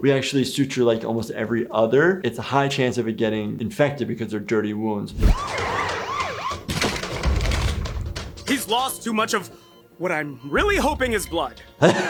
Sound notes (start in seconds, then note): 5.2 tires screeching; 5.3 sirens wailing; 5.3 doors clattering; 11.8 laughing